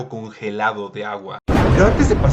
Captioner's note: cool blue explosion, RIP headphone users